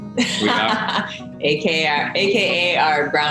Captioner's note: Elaine laughing